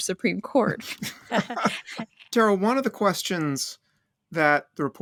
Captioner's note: laughter